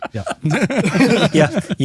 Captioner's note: alle lachen